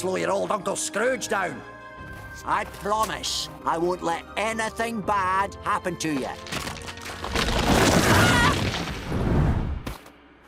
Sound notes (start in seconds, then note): 6.2 cracking; 8.0 screams